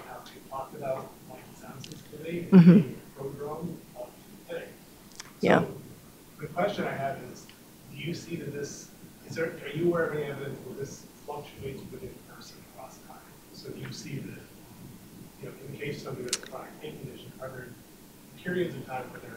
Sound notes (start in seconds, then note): 3.1 speaks faintly